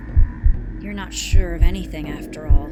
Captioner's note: heartbeat sound effect